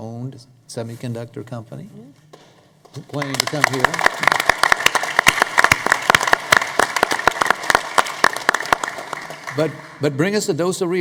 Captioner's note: applause